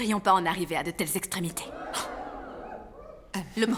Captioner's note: crowd